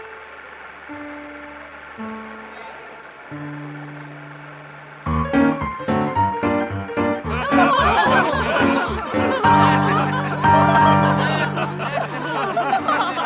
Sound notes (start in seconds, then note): 5.1 jaunty piano music; 7.2 audience laughing; 9.8 dramatic piano music